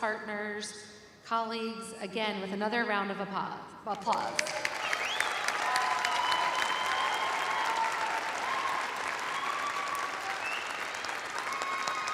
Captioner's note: cheers and applause